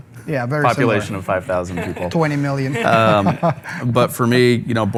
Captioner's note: laughs